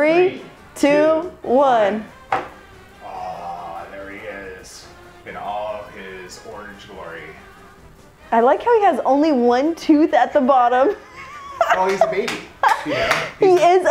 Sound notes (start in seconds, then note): 10.9 laughing